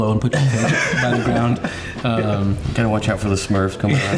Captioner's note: all laughing